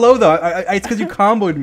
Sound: laughs

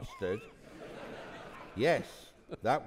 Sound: audience laughing

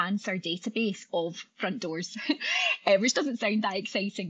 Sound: laughing

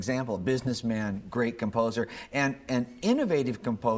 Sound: none

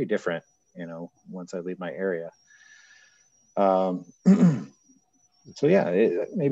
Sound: clears throat

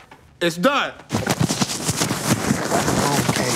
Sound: microphone rustles in clothing

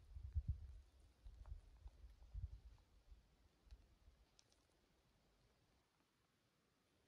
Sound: silence in nature

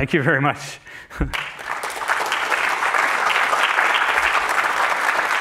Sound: laughs; applause

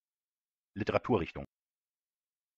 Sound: fast Pronunciation

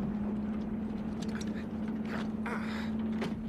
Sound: grunts

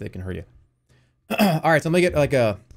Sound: clears throat

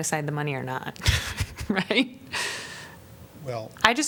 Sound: laughter

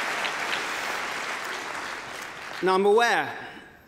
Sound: applause

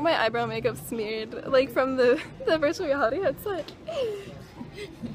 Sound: laughs

